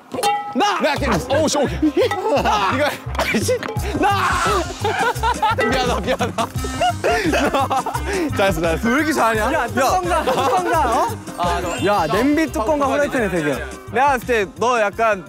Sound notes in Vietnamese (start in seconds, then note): 11.3 Cảm thán